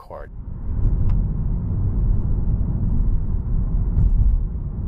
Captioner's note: car rumbling